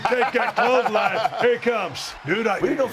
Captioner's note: laugh